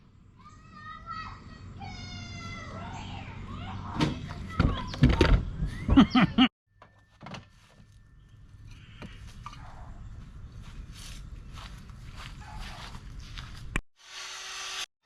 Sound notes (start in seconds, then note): 1.4 kids yelling: "ELLENOR LOST A TOOTH!; 1.4 laughing